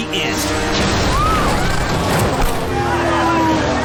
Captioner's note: spectators screaming